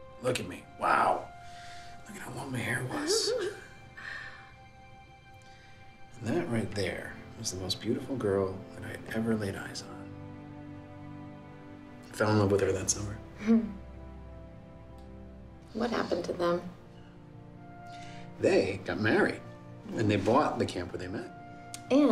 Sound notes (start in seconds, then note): 2.9 Jen laughs